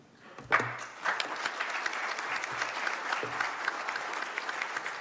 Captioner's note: applause